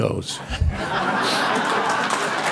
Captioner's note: audience laughing; audience clapping